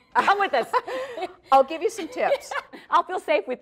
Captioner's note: laughs